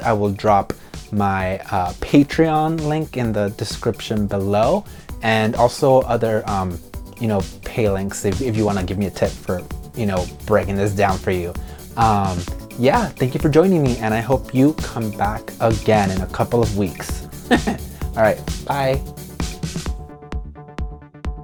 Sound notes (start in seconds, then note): 17.3 chuckles